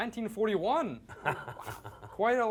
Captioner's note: laughing